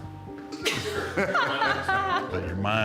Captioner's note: both laughing